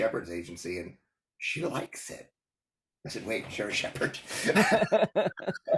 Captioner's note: laugh